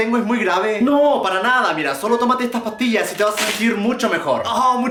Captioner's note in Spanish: papel arrancancándose